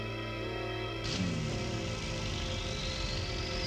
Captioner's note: engine starting